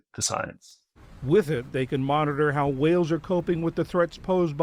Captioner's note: voice-over